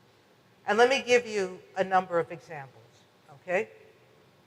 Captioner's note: none